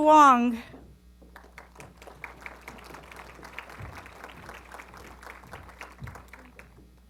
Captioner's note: applause